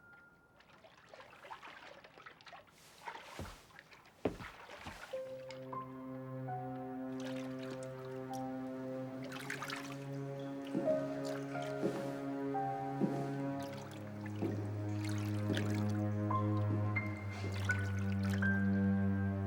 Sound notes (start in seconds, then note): 0.6 water splashing; 5.6 suspenseful music